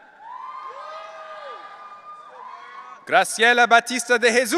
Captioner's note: audience cheering